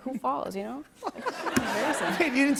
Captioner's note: laughter